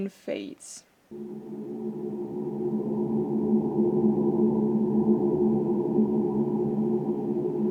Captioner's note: low vocal droning; droning fades out